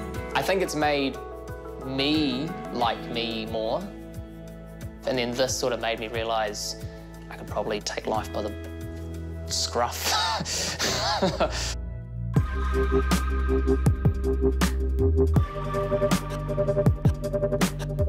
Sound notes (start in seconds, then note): 10.7 laughs; 12.2 pensive electronic music